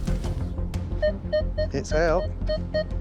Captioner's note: beeping